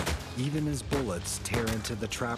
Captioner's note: voiceover